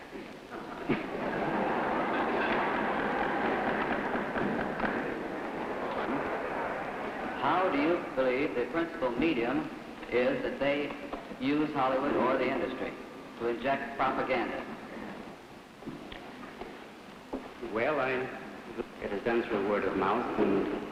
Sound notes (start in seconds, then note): 0.5 crowd laughter; 3.6 gavel banging